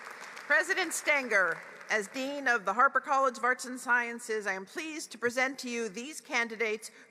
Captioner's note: applause